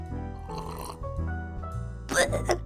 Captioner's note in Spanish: sorbido